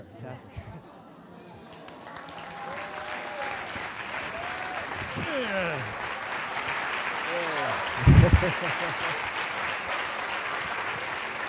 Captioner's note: applause